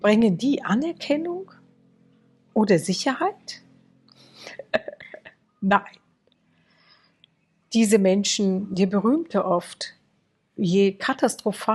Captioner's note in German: gelächter